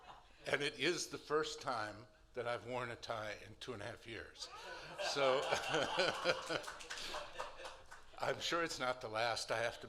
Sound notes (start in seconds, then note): 4.5 laughter